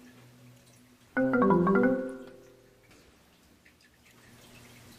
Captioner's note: phone chiming